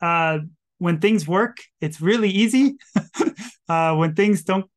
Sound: chuckles

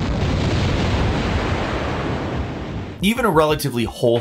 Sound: explosion sound effect plays

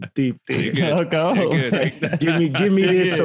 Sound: laughs

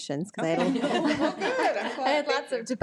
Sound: audience laughs

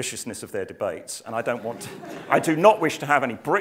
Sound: laughter

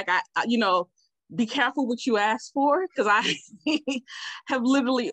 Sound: laughs

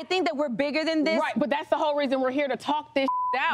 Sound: beep

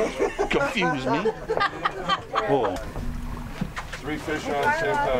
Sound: people laughing

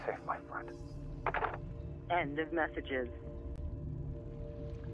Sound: phone Receiver Clicks Down

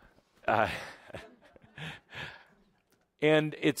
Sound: Adamus chuckles

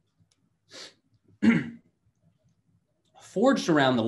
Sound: clears throat

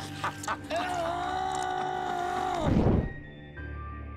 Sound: screaming

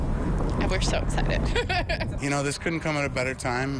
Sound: laughs

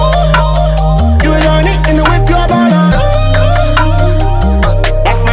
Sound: ohh

